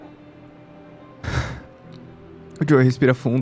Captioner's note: sighs